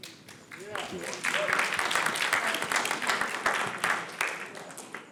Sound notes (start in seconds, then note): 0.4 audience applauds